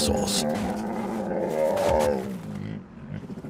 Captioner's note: bears growl